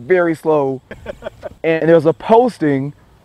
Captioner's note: laughter